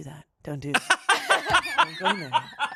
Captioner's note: laughs